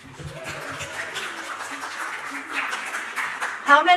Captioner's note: audience applauding